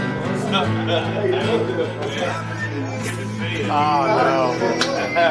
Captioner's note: laughing